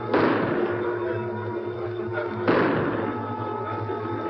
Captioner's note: gunshots